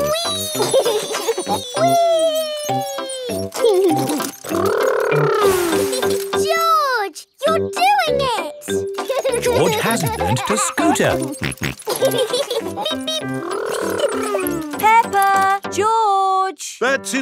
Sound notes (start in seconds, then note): 0.1 laughs; 9.1 george laughing; 12.3 both laughing